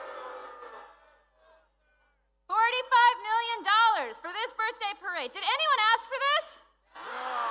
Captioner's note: cheering